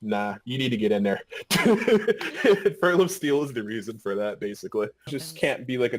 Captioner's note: laughing